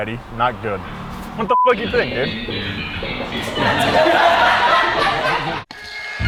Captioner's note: beep